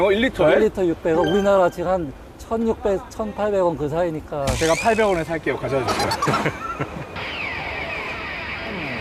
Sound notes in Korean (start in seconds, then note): 5.8 ㅎㅎㅎㅎㅎㅎㅎ